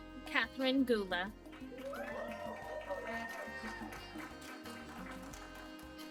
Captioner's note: applause